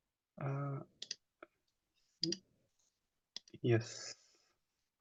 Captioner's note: mouse clicking